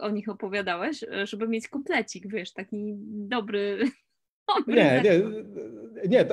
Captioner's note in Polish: śmiech